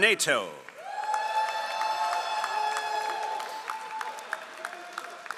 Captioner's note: all applauding